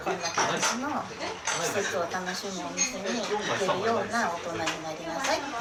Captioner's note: none